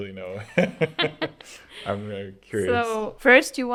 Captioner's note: laughter